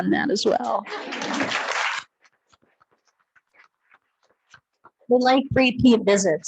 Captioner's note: attendees clapping